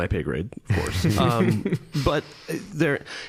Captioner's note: all chuckling